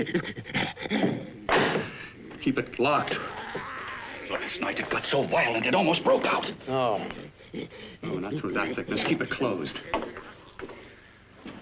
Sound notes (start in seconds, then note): 0.0 inhuman growling & grunting sounds; 1.5 lock pops; 3.0 growling sounds; 6.9 growling sounds